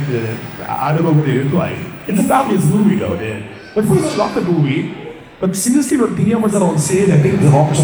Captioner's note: foreign language